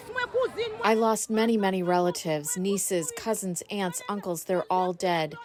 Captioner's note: through translator